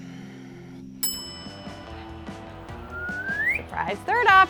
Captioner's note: bell chimes